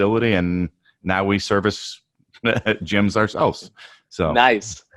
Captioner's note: laughs